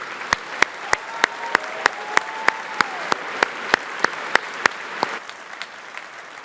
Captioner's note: audience applauding